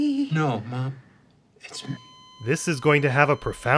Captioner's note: flatlining noise